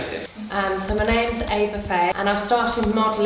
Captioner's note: keyboard Typing